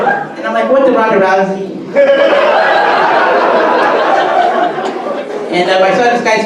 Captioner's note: audience laughter; audience laughter